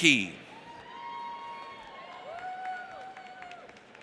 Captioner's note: audience cheers